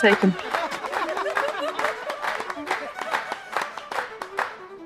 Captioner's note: audience applauding